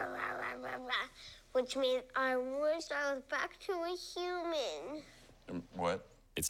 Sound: growling

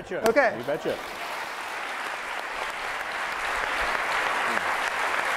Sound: applause

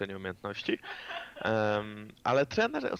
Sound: laughter in the backgound

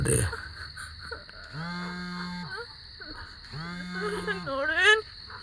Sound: phone vibrating

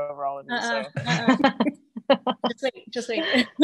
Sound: laughs

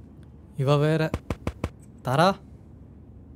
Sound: knocking

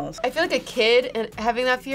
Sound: none

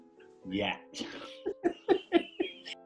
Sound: laughing

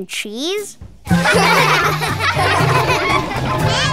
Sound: giggling

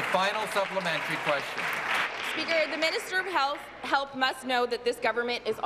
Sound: applause

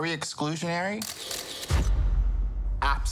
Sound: camera clicking

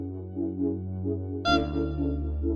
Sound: honk

